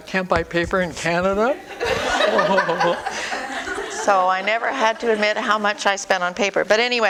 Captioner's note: audience: Laughter